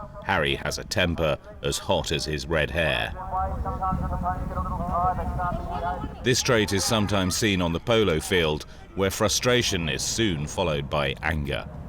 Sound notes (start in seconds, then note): 4.0 polo announcer rapid speaking